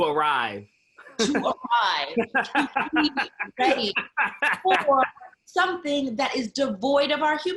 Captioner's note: laughing